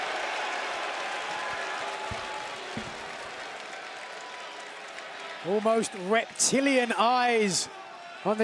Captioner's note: cheers and boos